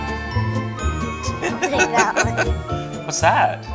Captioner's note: laughter